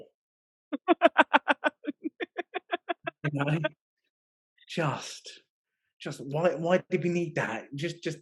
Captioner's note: laughing